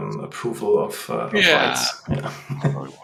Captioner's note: laughs